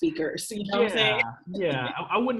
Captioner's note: chuckles